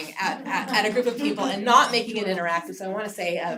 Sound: laugh

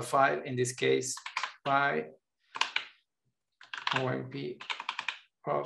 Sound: keyboard clattering

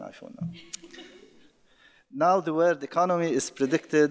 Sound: audience laughing

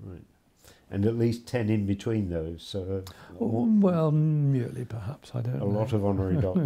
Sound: laughs

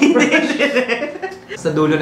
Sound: laughs

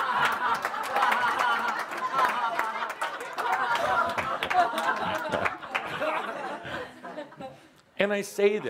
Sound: much laughter and audience applause

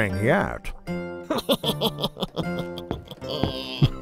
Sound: couple laughs

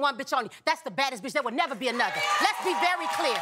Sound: audience clapping

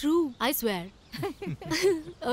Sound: chuckles

